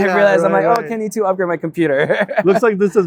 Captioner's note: laughs